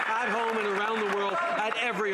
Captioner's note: some Applause